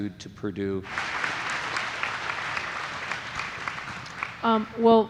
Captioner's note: audience applauding